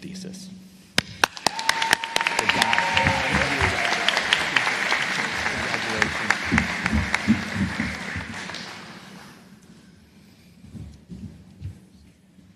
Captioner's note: applause